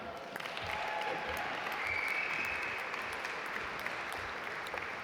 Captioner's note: audience applaud